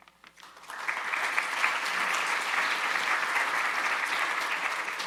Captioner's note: audience applauding